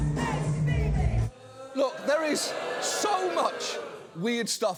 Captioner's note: audience booing